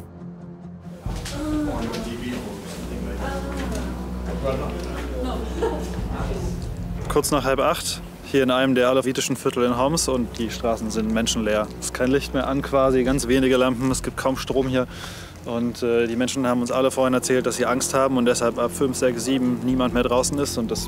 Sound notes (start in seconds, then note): 0.0 tense music; 1.0 voices in the background